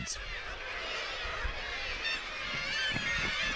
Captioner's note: birds squawking